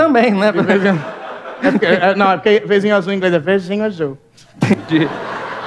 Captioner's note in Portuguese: com sotaque